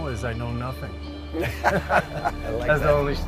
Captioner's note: laughter